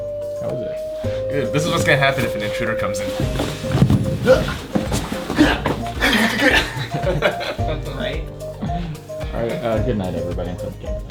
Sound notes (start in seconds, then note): 4.3 kung fu noises